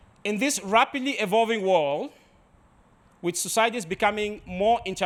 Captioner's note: none